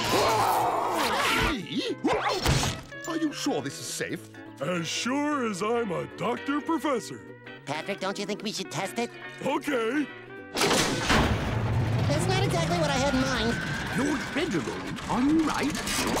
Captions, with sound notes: [roaring] Me? [grunting] Are you sure this is safe? As sure as I'm a doctor professor. Patrick, don't you think we should test it? Okay! That's not exactly what I had in mind. Lord Reginald, are you alright?